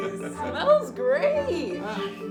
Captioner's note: laughs